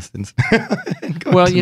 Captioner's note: laughing